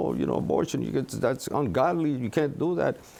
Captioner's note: speaks Spanish